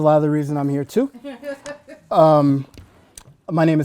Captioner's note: laughing